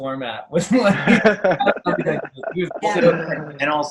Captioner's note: laughs